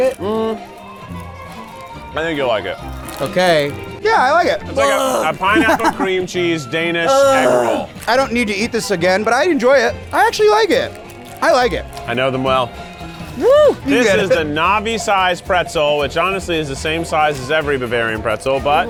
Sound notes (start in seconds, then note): 0.7 orchestra music; 4.7 groans